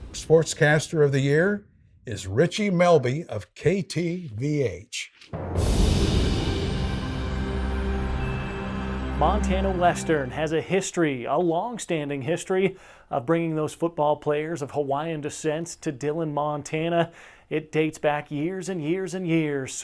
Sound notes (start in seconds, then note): 5.3 soft music; 5.4 wind whooshing